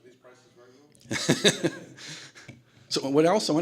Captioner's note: laughter